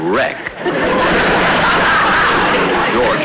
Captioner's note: audience Laughing